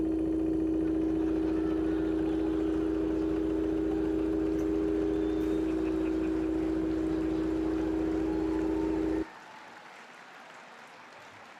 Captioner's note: laughter, applause